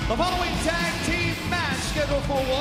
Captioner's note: bell ringing